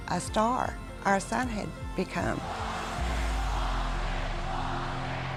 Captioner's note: crowd chanting "Austin"